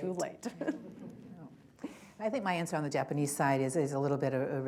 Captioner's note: laughter